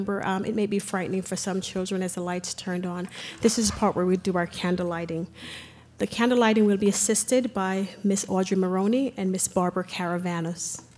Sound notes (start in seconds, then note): none